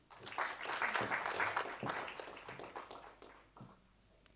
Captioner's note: audience applauding